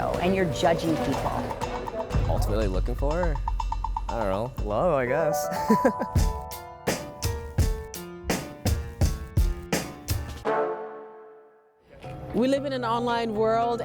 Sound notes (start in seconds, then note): 5.6 laughing